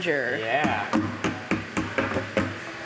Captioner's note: bucket hitting metal vat